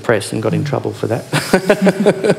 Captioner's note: laughing